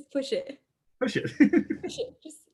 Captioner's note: laughing